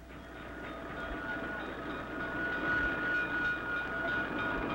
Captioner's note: train bell clattering